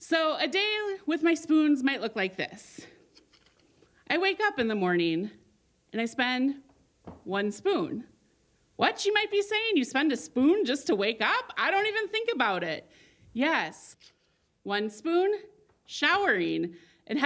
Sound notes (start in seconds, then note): none